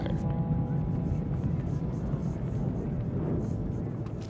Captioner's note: flames gushing